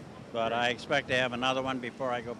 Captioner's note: none